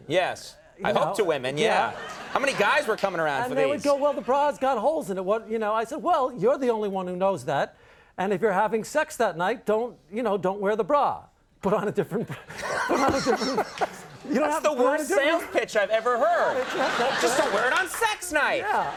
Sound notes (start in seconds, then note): 1.6 audience laughs; 12.1 Conan laughs; 12.4 laughs; 14.4 laughs